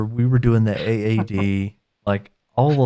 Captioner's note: laughs